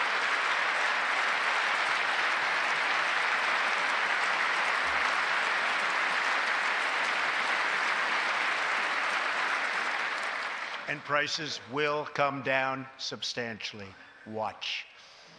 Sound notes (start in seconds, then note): 3.4 applause